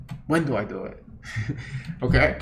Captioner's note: chuckles